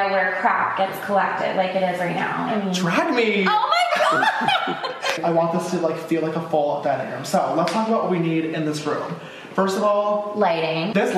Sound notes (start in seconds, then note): 3.5 laughing